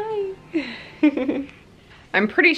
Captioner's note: laughing